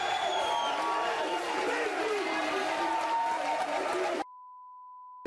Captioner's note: audience cheering